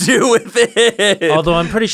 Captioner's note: laughter